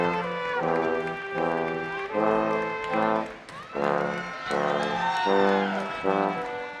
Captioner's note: instrumental music; audience applauding